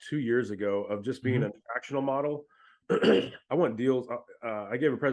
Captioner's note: clears throat